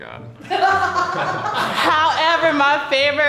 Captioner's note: laughing